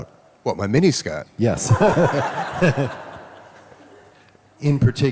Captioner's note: audience laughs